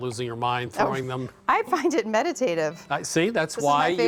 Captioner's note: laughing